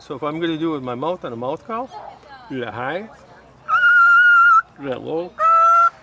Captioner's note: squealing; yelping; squealing